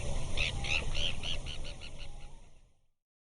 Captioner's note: bird tweeting